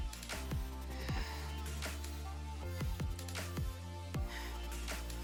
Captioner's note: exhaling